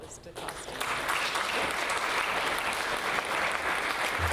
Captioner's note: audience applause